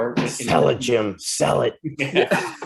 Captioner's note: brief laughter